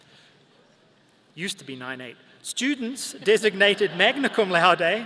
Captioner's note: audience laughing